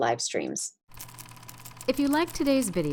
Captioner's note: vintage movie projector playing